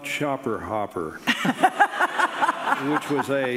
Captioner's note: audience laughing